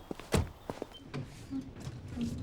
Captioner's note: humming